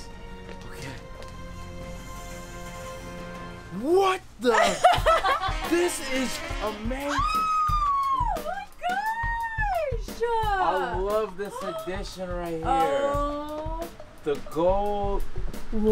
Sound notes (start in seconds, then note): 0.0 dramatic music; 4.5 laughing; 7.0 screaming; 7.1 upbeat music